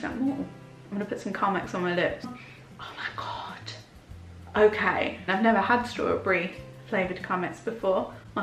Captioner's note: sniffs